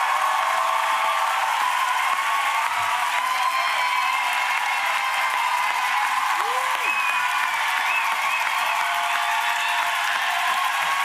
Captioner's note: applause